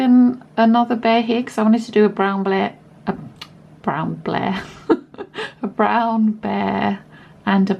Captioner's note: stumbles over words and laughs